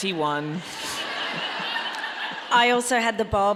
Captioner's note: audience laughing